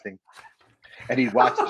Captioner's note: chuckles